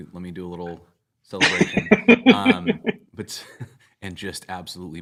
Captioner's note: laughter